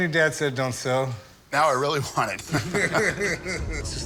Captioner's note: laughter